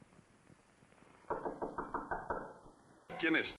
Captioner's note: knocking on door